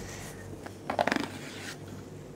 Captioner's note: quiet scraping